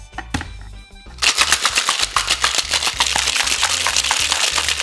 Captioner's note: shaking ice